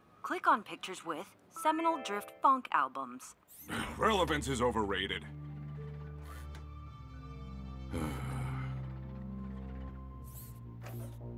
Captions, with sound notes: Click on pictures with seminal Drift Funk albums. [Guffs] Relevance is overrated. [Sigh]